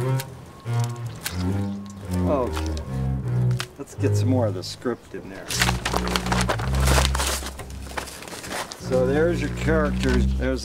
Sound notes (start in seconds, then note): 5.4 paper rustling loudly